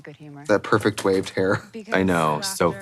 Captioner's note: laughs